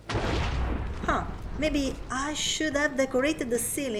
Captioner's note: lightning strikes